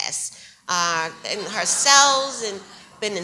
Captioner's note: audience laughs